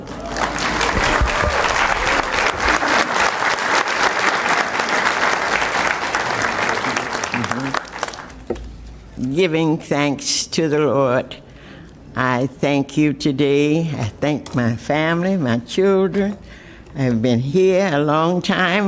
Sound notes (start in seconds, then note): 6.6 applause